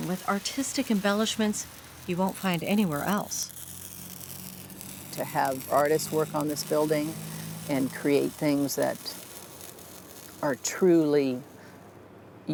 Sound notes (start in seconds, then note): 4.7 welding